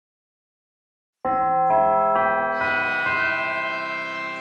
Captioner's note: bell chimes